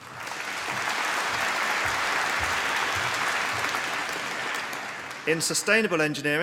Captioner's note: applause